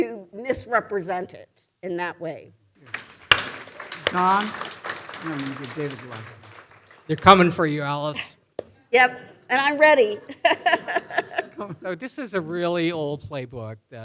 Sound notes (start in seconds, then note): 2.8 audience applauding; 5.3 faintly speaks; 10.2 chuckles